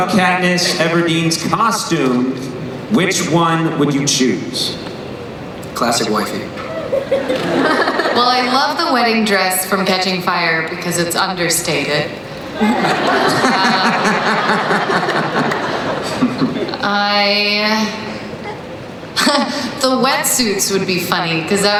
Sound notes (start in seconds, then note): 12.3 laughing